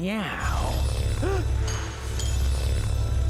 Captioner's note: gasps